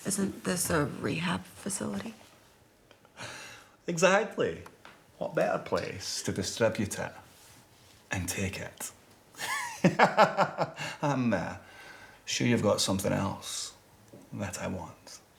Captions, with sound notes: - Isn't this a rehab facility? - Exactly, what better place to distribute it and take it? (laughs) I'm, uh, sure you've got something else that I want.